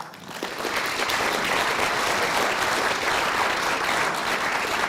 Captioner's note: applause